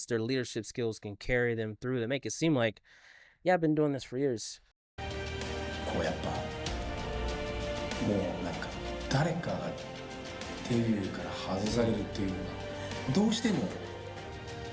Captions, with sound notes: their leadership skills can carry them through. They make it seem like, yeah, I've been doing this for years. (speaking foreign language) (speaking foreign language)